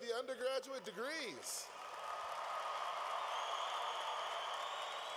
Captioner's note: cheering